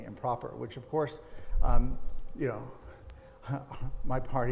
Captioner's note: chuckling